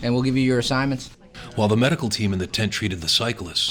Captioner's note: voiceover